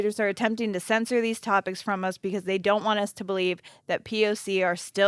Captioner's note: none